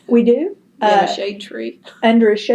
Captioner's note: laughs